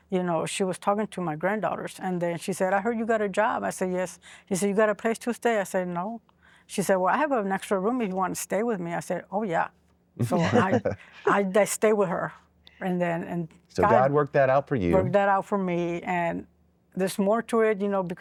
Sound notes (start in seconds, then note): 10.2 laughter